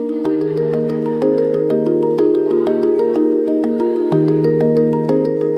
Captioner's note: campers talking happily